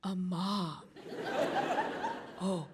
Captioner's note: audience laughing